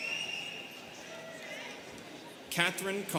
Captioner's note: students cheering